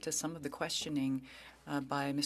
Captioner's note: speaking French